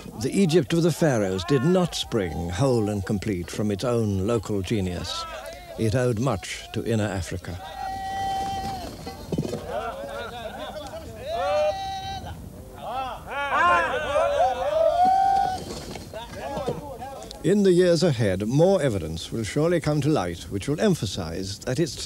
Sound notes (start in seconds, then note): 7.6 non-english speech